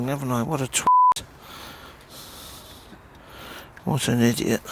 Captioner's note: beeps